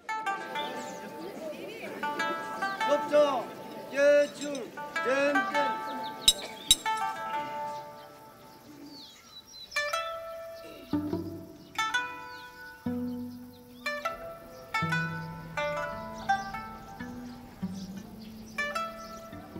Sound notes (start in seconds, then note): 0.3 tranquil music; 2.9 speaking in foreign language